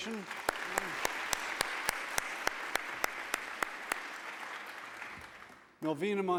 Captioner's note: applause